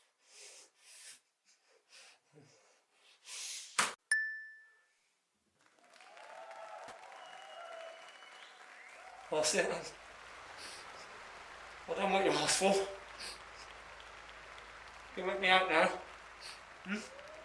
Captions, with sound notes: (bell dings) (crowd cheers) We're all set then? I've done what you asked for. You can let me out now.